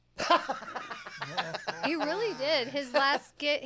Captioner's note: laughs